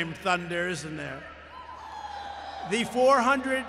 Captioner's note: applause